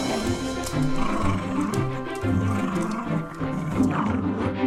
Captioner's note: growling